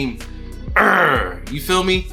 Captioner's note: imitates growling